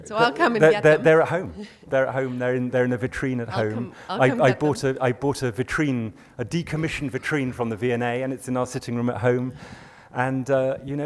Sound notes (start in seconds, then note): 0.0 laughs; 1.6 voiceover; 4.5 voiceover